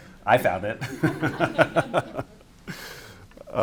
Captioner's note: laughter; laughs